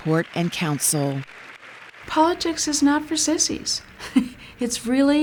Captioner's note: chuckles